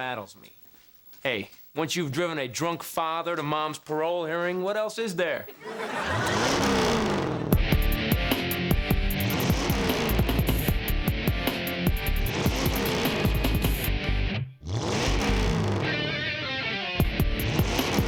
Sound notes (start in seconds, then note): 5.1 engine revving; 7.5 theme music playing